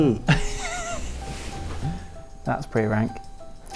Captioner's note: laughs